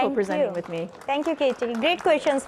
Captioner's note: crowd applauds